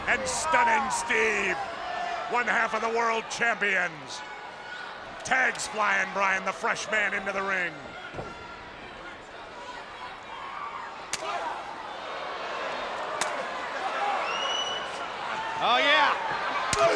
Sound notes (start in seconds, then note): 8.9 spectators cheering; 11.1 slaps smacking; 11.3 spectators cheering